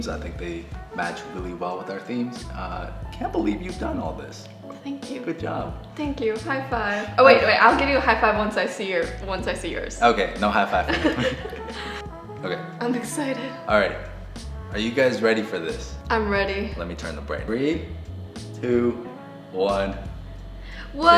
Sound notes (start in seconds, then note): 10.6 both chuckle